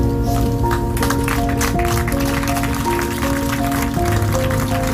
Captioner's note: applause